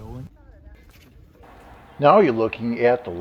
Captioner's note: people murmuring